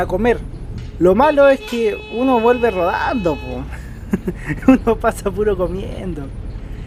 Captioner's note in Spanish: risas